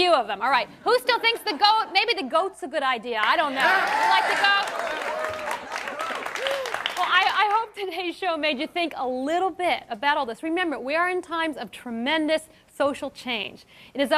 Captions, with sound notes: A few of them, alright. Who still thinks the goat, maybe the goat's a good idea. I don't know. You like the goat? (cheering) Well I hope today's show made you think a little bit about all this. Remember, we are in times of tremendous social change.